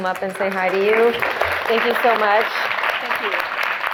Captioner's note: students clapping